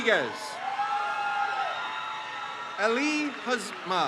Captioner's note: crowd cheers